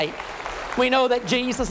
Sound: applause

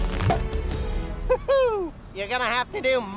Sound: pops; excited yell

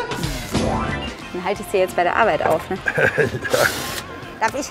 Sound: laughing

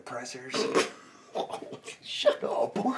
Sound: bursting out laughing

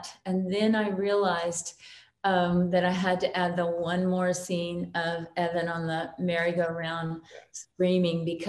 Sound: none

